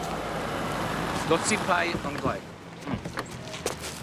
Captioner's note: speaking Mandarin